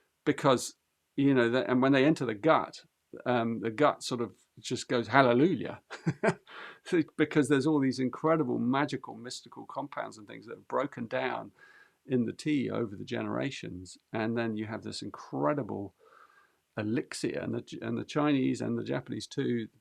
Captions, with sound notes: Because, you know, and when they enter the gut, the gut sort of just goes, 'Hallelujah,' [laughs] because there's all these incredible magical, mystical compounds and things that are broken down in the tea over the generations, and then you have this incredible elixir. And the Chinese and the Japanese, too,